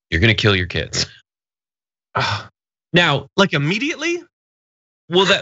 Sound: laugh

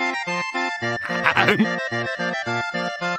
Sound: laughing

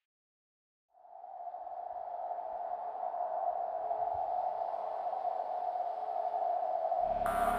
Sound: strange wind

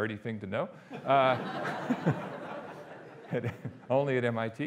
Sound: audience laughing

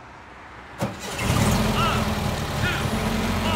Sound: car engine whirring

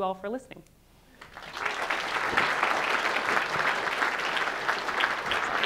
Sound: audience applauding

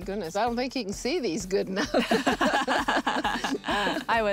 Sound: laughing

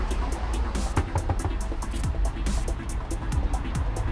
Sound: knocks

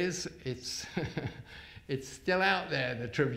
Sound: chuckles

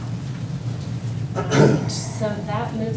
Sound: clears throat

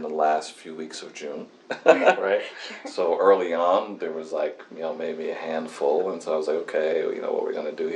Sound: laughs

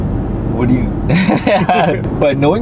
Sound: both laughing

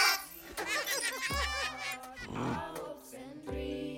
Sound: laughing; grumbling; distant singing

